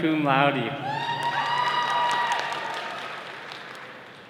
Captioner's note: all cheering